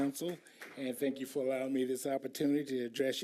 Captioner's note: applause